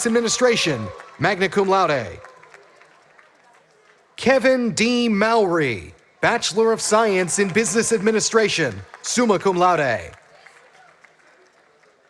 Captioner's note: graduates walking